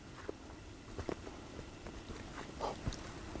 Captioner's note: footsteps